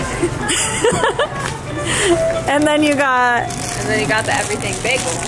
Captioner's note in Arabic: كلاهما يضحك